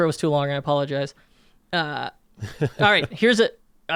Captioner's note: laughs